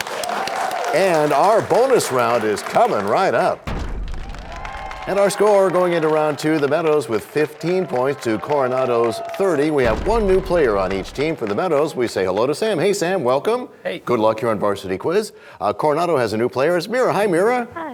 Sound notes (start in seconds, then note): 0.0 applause; 3.6 crashing sound